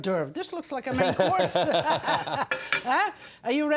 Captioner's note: they laugh